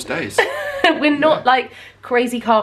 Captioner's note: laughs